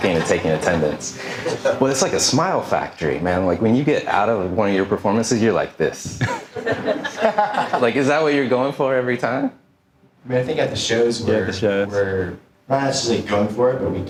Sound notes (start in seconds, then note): 6.2 audience laughing